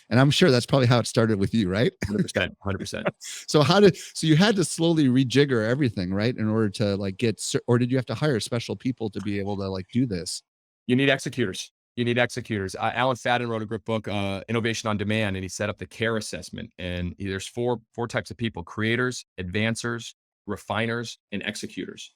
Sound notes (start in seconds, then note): 1.3 laughing